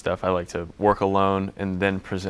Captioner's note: none